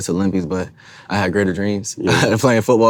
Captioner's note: chuckles